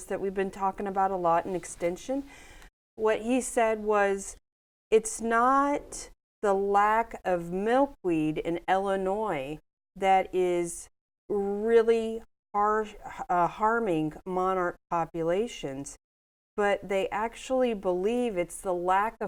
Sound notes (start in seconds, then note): none